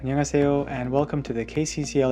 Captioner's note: speaking in Korean language